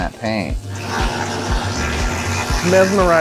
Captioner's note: laser whizzing